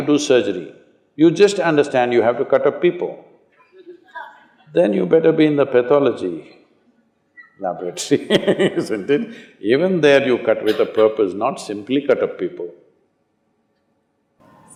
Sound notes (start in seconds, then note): 3.9 laughter; 8.0 laughs